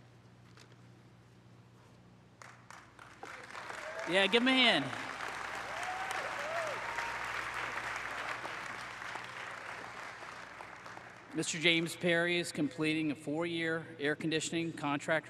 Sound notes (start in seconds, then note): 8.0 applause